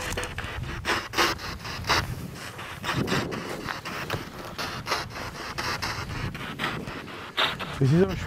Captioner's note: radio noise from the spirit box